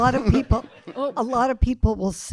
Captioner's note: audience laughing